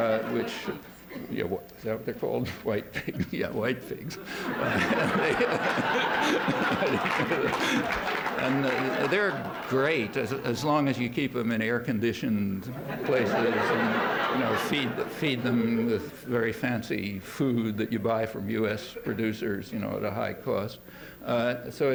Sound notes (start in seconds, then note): 2.8 laughter; 12.7 laughter